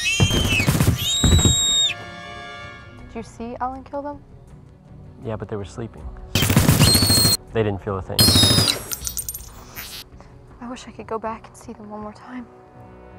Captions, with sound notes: [gunfire] [thumping sound] Did you see him kill them? Yeah but they were sleeping. [gunshots] They didn't feel a thing... I wish I could go back and see them one more time...